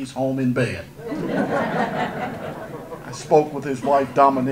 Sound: audience laughter

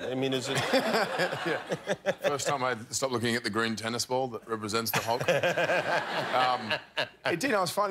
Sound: laughter

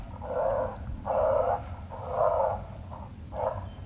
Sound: growling

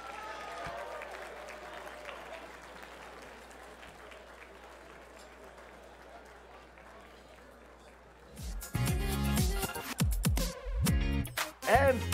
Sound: applause

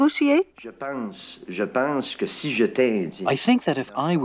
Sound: speaking in foreign language

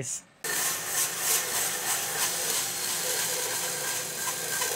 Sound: saw buzzes

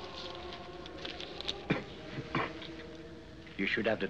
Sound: Dutour Coughing

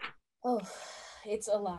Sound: sighing

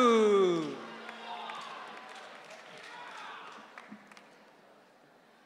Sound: audience cheering

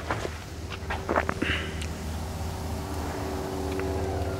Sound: meat sizzling

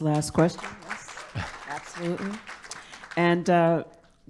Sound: audience claps

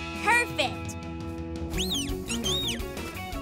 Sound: chirping

